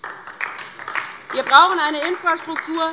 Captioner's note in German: Beifall DIE LINKE